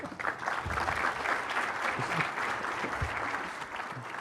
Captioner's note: applause